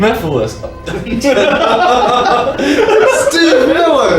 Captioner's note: laugh